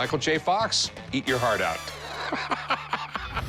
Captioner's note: laughs